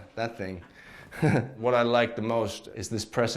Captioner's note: laughs